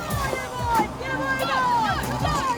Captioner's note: crowd murmuring